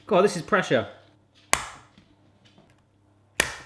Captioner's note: cracking